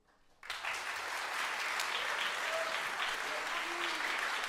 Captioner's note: crowd applauds